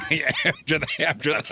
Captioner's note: laughing